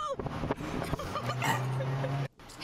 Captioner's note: burps